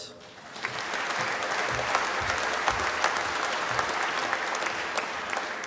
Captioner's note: applause